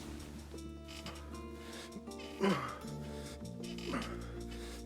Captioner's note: grunting